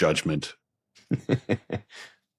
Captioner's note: chuckles